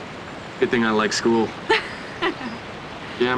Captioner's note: laughing